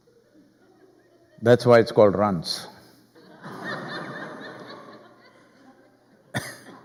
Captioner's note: laughter